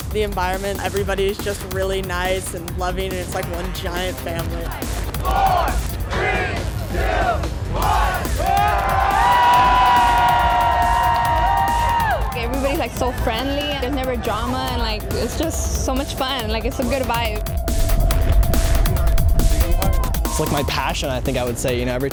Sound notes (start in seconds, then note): 5.7 crowd; 7.8 cheering